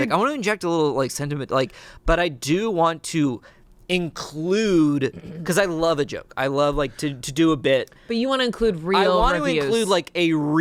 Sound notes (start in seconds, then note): none